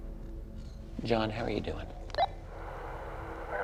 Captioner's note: walkie-talkie blips